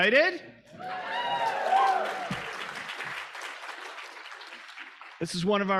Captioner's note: audience cheering; audience applauding